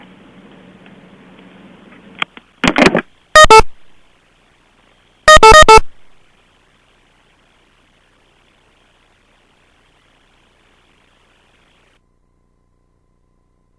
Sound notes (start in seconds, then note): 0.2 beeping; 5.0 no speaking